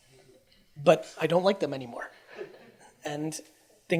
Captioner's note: audience chuckles